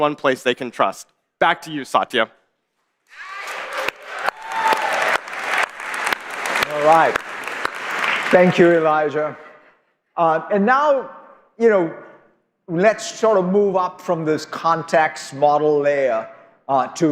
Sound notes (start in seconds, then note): 9.0 applause